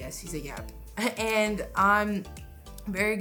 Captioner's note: laughs